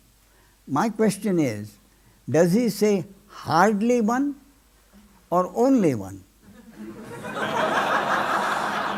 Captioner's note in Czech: smích